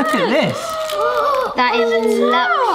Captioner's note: gasping